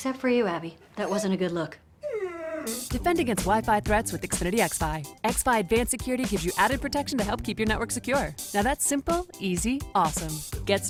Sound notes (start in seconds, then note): 2.0 whining